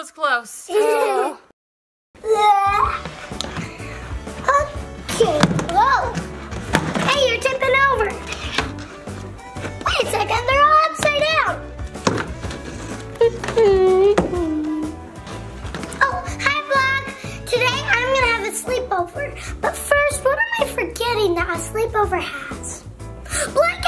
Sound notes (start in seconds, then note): 3.2 sighs; 13.2 humming